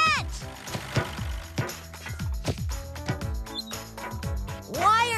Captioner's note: ball Thumping